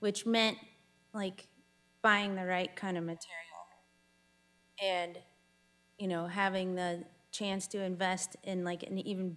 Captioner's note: none